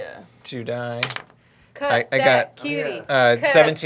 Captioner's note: dice clacking